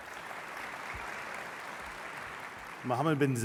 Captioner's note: applause